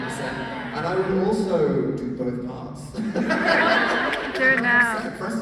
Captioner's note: laugh